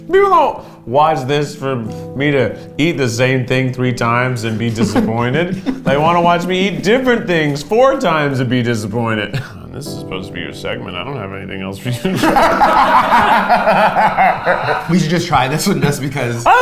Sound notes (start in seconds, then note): 4.4 laughs; 12.1 and crew laugh loudly